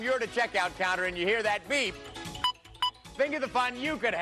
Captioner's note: scanner beeps